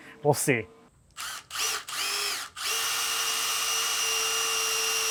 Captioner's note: drill whirring